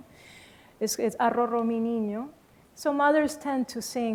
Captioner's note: spanish